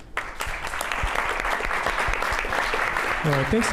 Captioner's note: applause